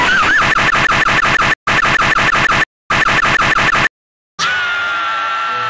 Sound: glitching maniac laughter

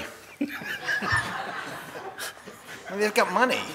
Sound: crowd laughing

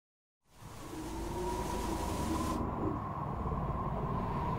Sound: wind blowing

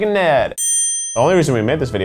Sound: ding

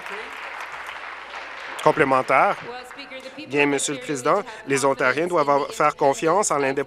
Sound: applause

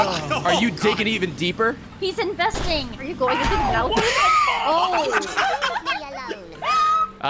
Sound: laughs

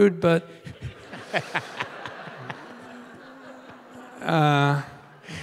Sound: Tim and audience laughing

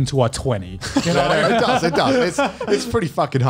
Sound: laughs

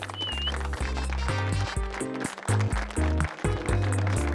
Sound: applause

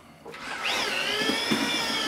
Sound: whisk whirring

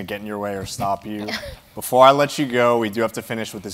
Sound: laugh

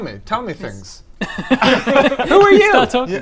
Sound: laughs

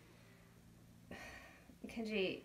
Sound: light Sigh

